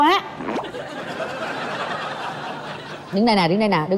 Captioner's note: laughing